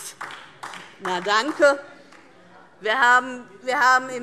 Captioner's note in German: Beifall DIE LINKE